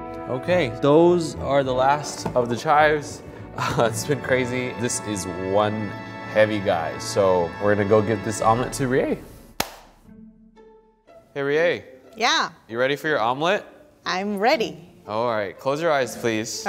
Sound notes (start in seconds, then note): 9.6 claps hands